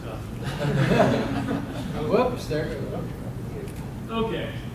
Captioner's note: class laughing